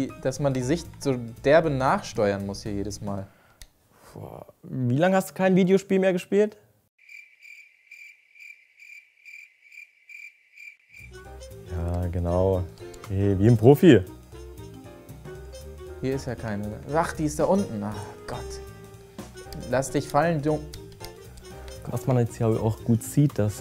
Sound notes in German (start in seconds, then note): 7.0 Grillenzirpen; 11.6 Flotte Musik